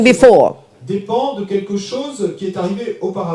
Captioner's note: speaking in French